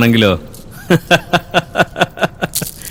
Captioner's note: scornful laughter